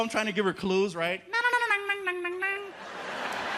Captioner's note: hums Asian-themed tune